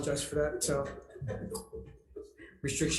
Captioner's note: laughs